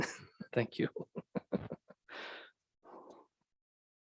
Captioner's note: chuckling